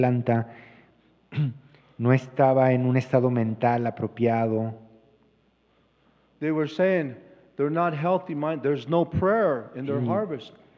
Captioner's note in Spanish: Expositor habla en inglés